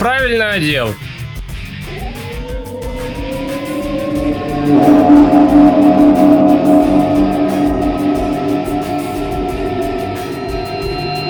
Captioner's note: box engines whine; capture beam vibrations; energy bursts; portal opening squeaks